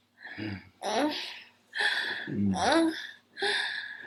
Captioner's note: moaning